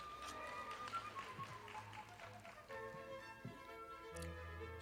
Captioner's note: audience applauding